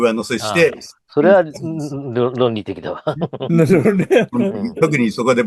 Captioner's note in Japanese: 笑い